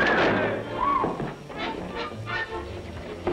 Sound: shrieking

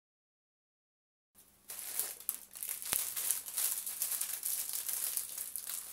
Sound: rustling

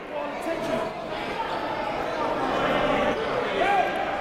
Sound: crowd talking

